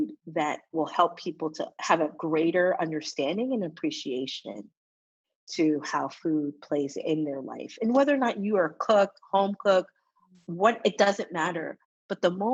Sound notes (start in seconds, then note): none